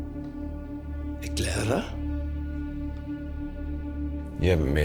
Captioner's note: Siegmund speaking German